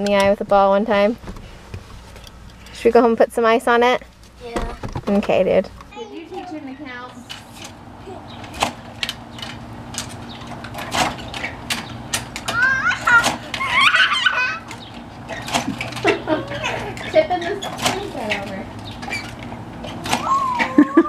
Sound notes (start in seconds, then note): 12.5 child laughs